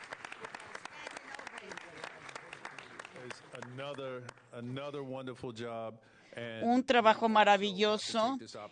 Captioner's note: applause